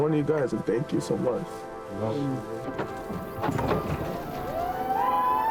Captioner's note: door clanging; people cheering